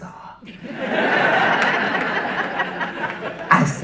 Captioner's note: audience laughing